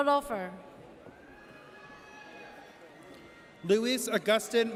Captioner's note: audience cheers